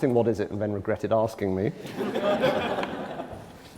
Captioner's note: laughter